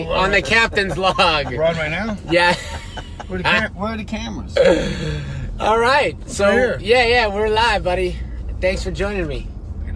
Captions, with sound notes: On The Captain's Log. - We're on right now? - Yeah. (laughing) - Where are the cameras? - All right. - Right here. - Yeah, yeah we're live buddy. Thanks for joining me.